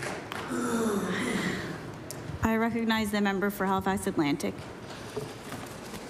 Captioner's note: applause